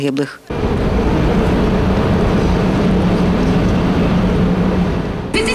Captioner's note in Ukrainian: шум міста